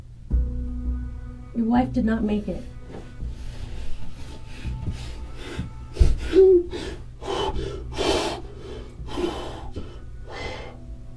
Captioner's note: crying